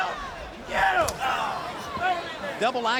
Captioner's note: fists slap